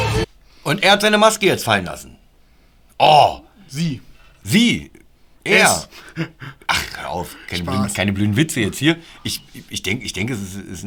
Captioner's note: laughter